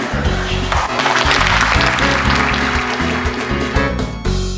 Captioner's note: applause